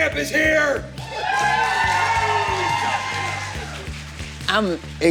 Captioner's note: cheers and applause